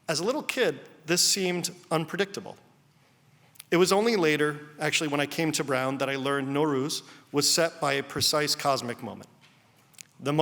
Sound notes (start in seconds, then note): none